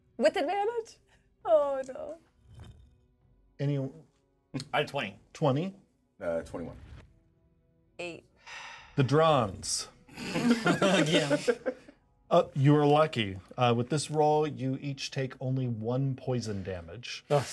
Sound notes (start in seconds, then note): 10.2 laughs